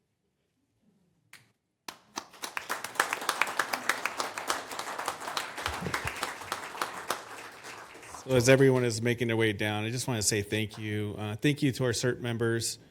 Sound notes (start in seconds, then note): 7.6 applause